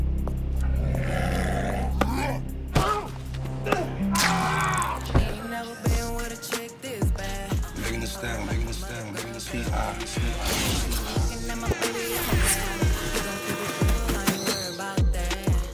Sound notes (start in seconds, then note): 0.6 growls loudly; 4.1 screams; 7.2 Archimedes, echoing